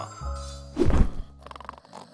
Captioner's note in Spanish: Indus ronca